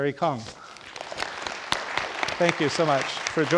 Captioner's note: audience applauding